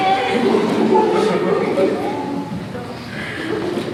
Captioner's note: sighs